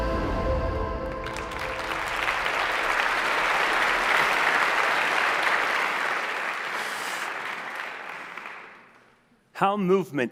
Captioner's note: applause